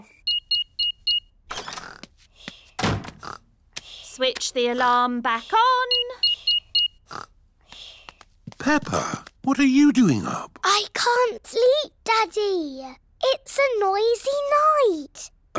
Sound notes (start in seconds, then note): 0.0 beeping; 5.8 beeping